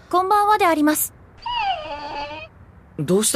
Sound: whines

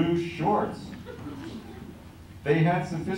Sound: laughter

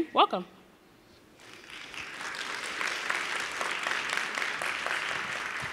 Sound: audience applauding

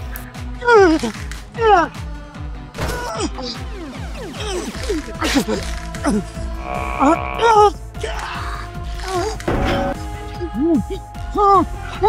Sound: screams in pain

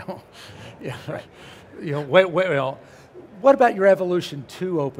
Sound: laughs

